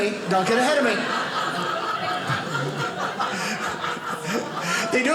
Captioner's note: audience laughing